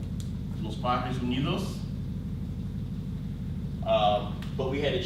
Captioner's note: speaks in foreign language